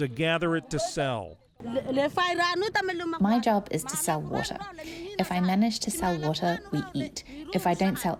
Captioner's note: through translator